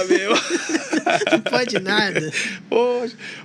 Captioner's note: risadas